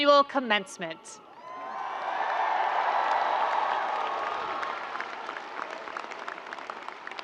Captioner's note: audience and students cheering and screaming